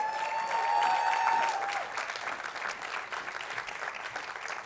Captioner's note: attendees applauding